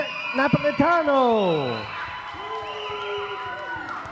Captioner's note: applause